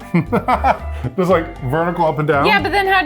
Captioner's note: laughs